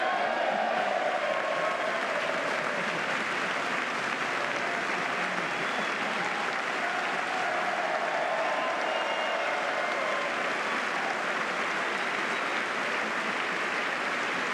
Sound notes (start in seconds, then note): 3.2 applause